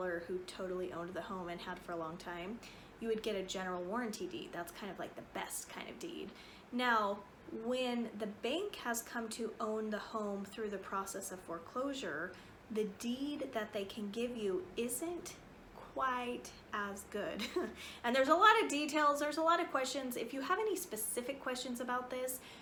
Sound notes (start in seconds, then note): 17.3 chuckles